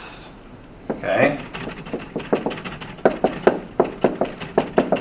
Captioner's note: marker thudding